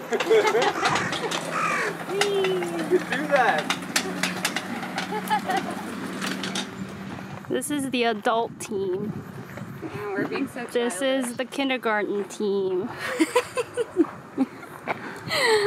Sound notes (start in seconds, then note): 13.0 giggles